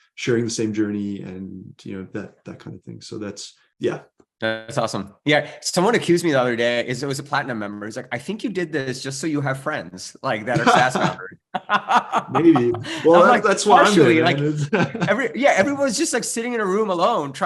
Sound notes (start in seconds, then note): 10.4 laughs